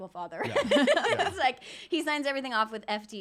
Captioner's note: giggling